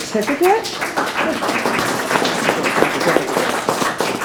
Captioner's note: members clapping